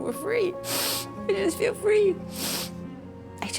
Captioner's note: sniffles